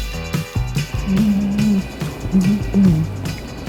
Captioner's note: humming